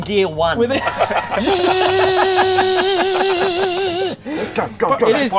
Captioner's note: zscsssssccsccccscccsssscsssscscsssscsccsssccsh